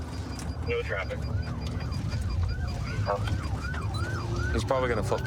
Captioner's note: sirens wailing